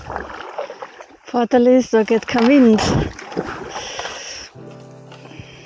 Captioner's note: paddling